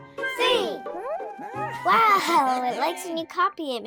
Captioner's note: laughs